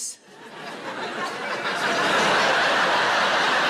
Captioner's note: audience laughing